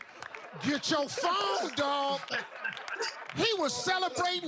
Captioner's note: laughter